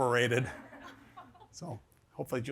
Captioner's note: audience laughs